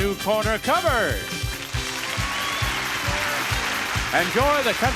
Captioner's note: upbeat music; audience cheers and applauds